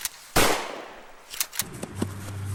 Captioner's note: gunshot